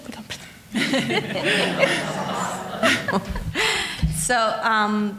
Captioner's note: laughing